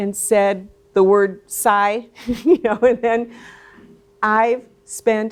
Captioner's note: laughs